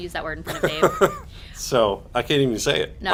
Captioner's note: laughs